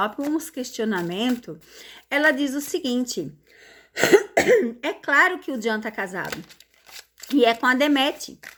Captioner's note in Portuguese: limpando a garganta